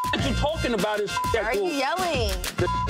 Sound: beep

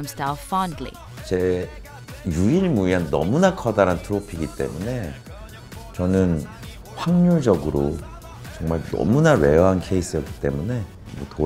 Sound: non-english speech

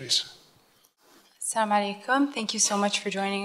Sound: foreign language

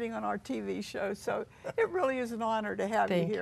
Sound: laughs

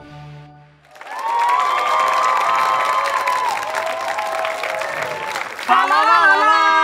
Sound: audience cheering

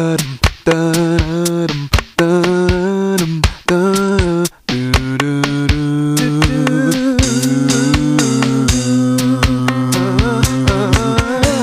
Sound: humming melodies

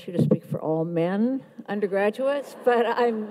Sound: audience laughs

